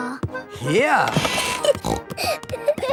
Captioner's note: snorting; kids giggling